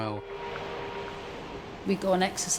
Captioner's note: pensive music; water whooshing